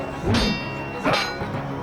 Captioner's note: grunting